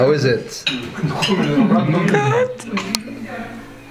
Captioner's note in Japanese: 震え声